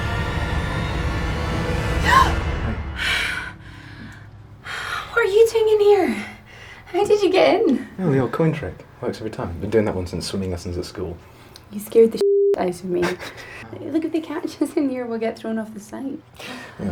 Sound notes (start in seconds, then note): 2.9 gasping; 13.0 laughing